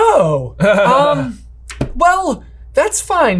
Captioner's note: chuckles lightly